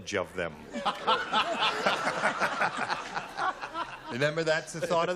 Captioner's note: laughter